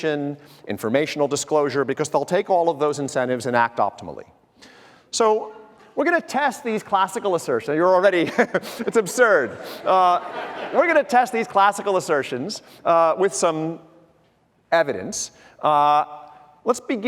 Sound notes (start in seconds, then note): 8.2 chuckles; 8.4 audience laughter